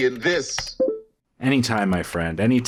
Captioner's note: typing noises